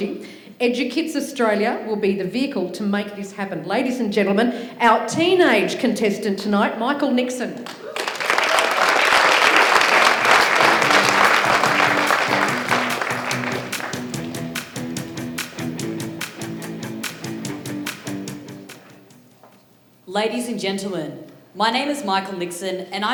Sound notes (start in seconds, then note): 9.6 applause